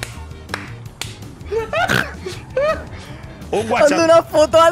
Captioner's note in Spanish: ríe como un cerdo